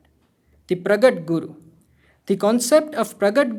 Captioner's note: hindi; hindi